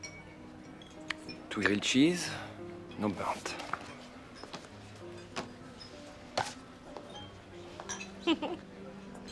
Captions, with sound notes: Two grilled cheese. No burnt. [CHUCKLES]